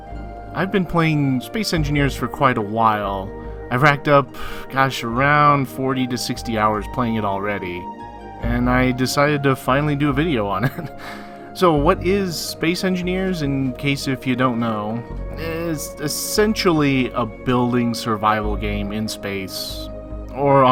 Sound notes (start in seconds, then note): 10.6 laughs